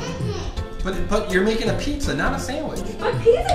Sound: voiceover

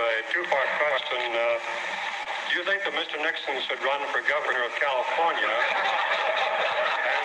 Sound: laughter; laughter

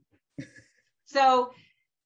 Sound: chuckles

